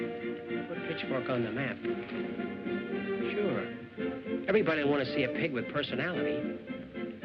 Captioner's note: none